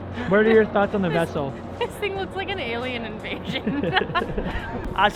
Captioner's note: chuckles